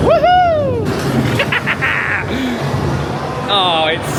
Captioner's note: cackles